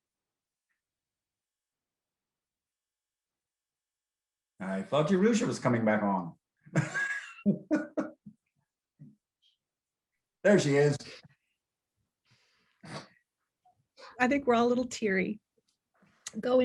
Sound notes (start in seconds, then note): 6.7 laughs